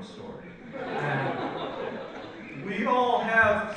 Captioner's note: audience laughs